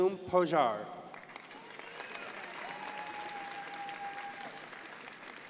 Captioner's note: crowd applauding